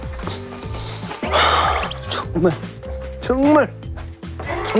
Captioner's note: he continues to sigh